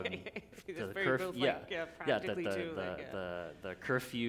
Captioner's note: laughter; laughter